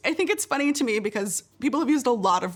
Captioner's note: none